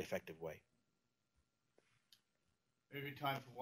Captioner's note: pause